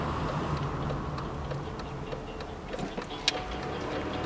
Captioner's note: indicator clicking